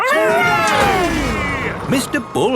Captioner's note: all cheering